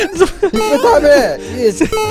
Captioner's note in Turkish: Bağırarak